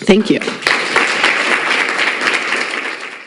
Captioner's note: audience applauds